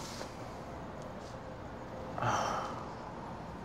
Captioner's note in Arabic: تنهد